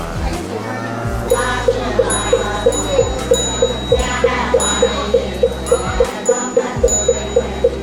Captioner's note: bell ringing; prayer reciting